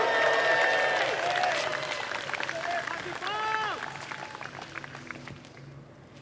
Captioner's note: applause